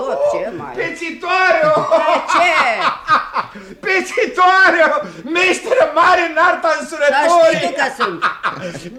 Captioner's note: laughs out loud